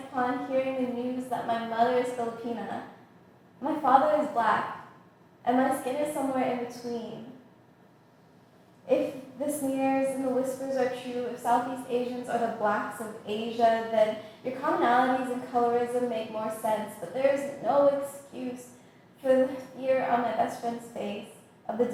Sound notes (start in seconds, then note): none